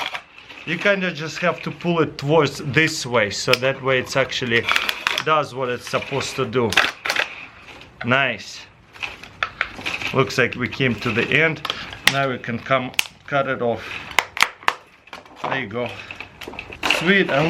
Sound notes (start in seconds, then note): 12.5 cutting off plastic